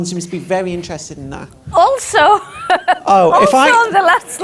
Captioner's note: she laughs